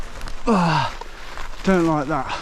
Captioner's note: grunts